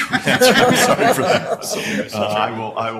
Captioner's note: laugher